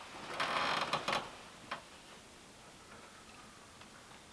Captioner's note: chair creaking